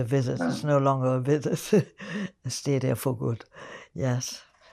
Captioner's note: laughing